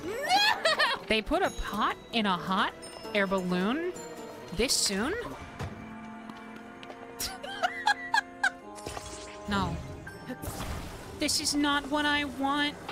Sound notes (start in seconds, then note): 5.5 thunk; 7.2 laughter; 11.1 singing